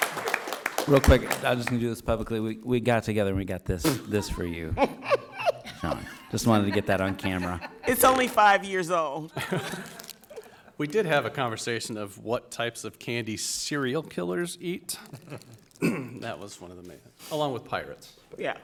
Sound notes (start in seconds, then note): 3.9 laughs